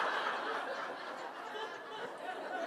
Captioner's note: laughter